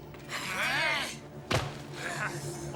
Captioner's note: devils exclaim